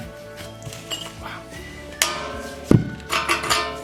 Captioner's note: metal clinking